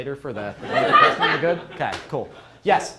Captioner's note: crowd laughs